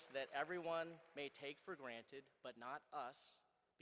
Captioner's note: applause